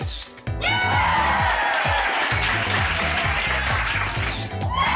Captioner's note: crowd exclaims and claps